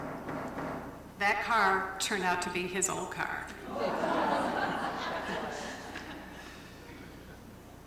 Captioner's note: laughter